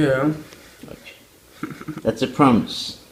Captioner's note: laugh